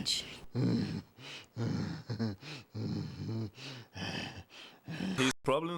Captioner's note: Groden groans and chuckles